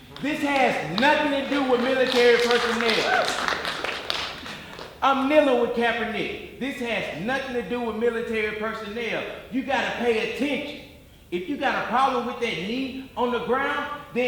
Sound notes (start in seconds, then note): 3.0 audience applauding